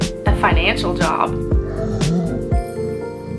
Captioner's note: throws up